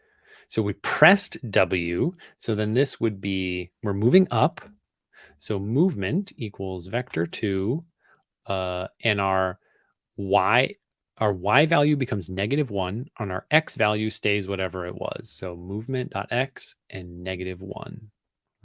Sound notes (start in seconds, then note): none